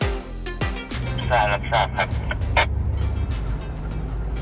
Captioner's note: incoming radio